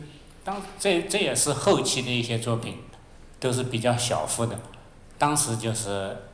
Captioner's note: Mandarin